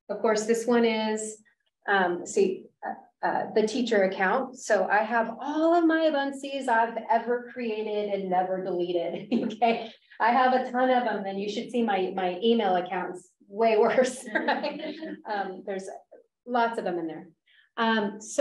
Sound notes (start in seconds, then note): 9.2 chuckles; 13.9 laughter